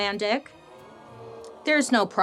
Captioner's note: audience groaning